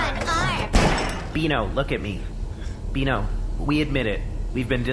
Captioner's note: refrigerator door slams repeatedly